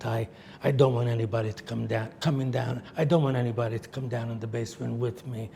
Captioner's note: none